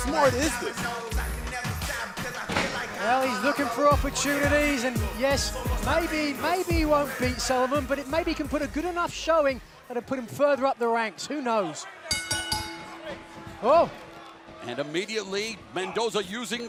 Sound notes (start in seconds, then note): 12.0 bell ringing